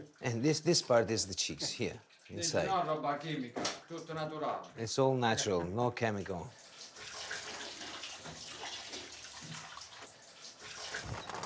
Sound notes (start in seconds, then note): 8.4 water splashes